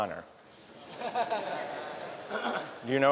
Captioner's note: laughter